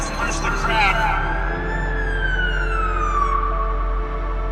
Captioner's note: siren blaring